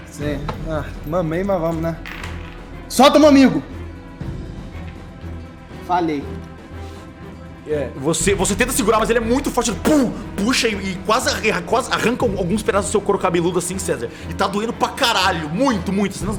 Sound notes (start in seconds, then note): 10.4 thud